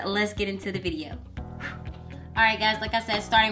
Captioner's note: blows air